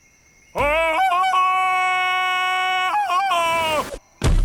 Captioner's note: ululating